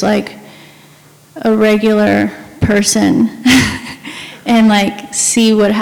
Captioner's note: laughs